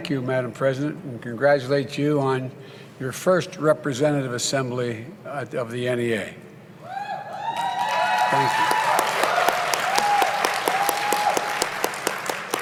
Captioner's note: applause